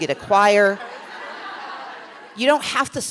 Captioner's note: laughter